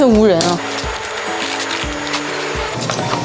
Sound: non-stop barcoade scanning

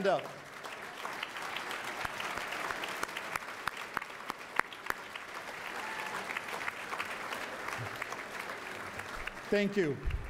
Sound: applause

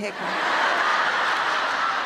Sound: laughter

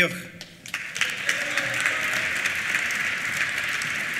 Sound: applause; cheers

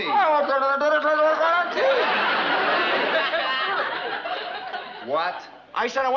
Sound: mumbling

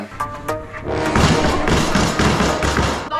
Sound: slamming

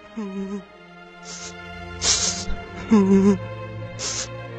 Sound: crying

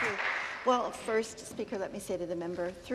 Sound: some Applause

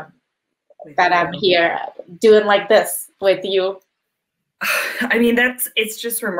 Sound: chuckles

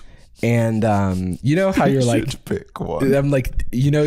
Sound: laughing

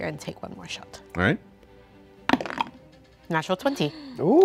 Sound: dice clatter

